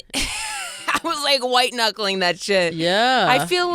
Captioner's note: laughing